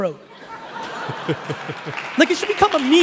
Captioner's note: laughing